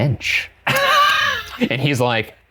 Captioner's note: laughing